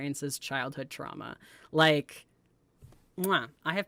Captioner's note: kiss